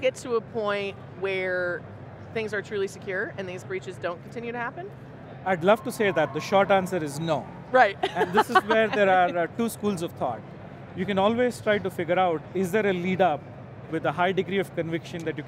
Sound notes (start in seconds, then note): 5.6 crowd cheering; 8.0 laughing